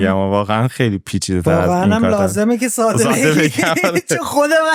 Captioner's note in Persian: خنده